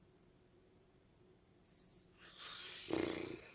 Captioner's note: pffttttt